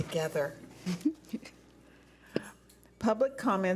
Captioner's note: laughing